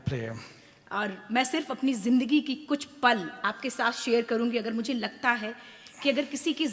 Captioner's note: speaks foreign language